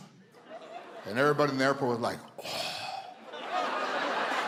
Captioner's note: audience laughs; groans